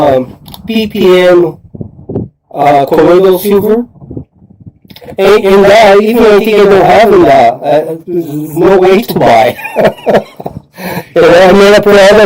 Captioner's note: laughter